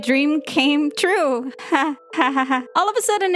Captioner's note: nervous laughing